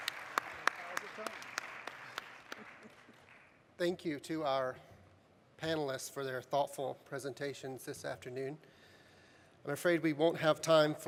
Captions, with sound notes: - How is your tongue? (people chuckling) - Thank you to our panelists for their thoughtful presentations this afternoon. I'm afraid we won't have time